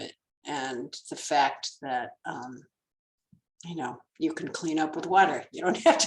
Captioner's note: laughs